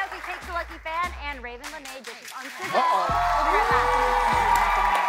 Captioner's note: cheers and applause